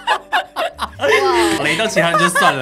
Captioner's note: laughter XD; exclaims